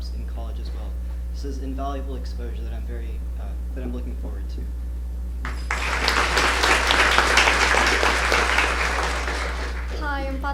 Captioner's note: applause